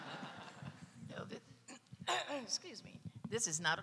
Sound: audience laughing; audience member clearing throat

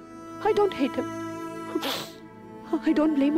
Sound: sobs

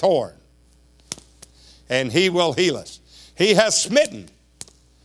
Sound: slaps hands; slaps hands again

